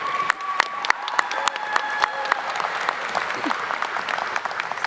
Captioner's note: audience applauding